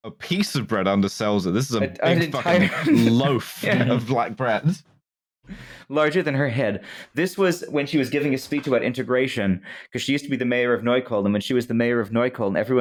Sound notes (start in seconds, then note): 1.9 laughing